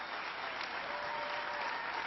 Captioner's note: applause